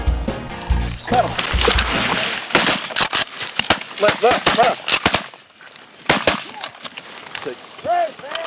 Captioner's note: gun shots